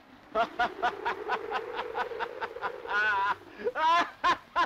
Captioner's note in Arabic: أنطون يضحك